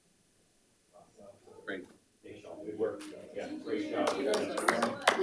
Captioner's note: board Members talking and laughing off microphone; participants applauding